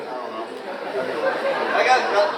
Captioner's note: audience laughs